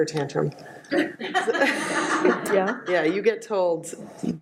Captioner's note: audience laughs